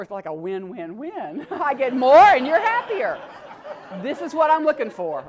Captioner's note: laugh